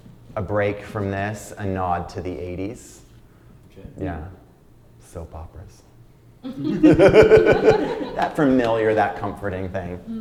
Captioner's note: laughter